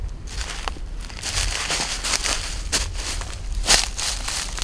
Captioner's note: foliage crackling